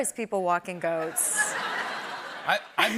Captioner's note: laughter